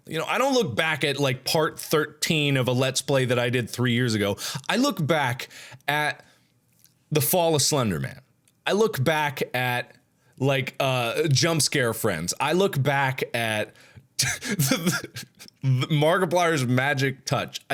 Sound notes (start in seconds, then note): 14.2 laughs